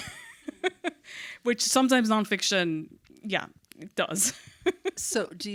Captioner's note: laughs; laughs